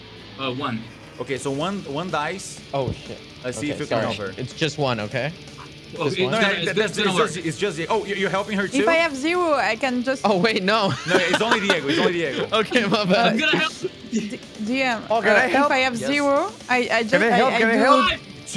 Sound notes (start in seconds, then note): 10.8 laughs